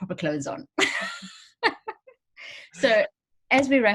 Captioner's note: both laugh